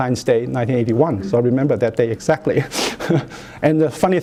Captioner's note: chuckles